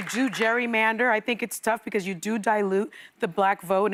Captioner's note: applause